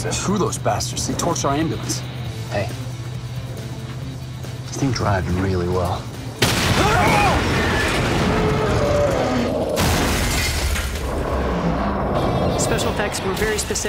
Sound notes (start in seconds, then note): 6.6 exploding; 6.6 shouting; 9.6 crashing